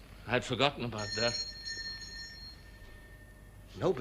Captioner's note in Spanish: Suena la campana